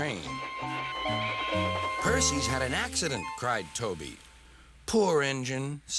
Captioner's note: creaks